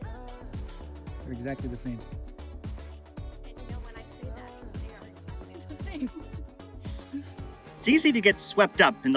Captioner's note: laughing